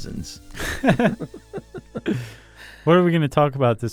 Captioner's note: laughter